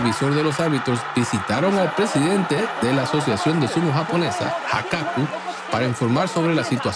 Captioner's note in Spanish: risas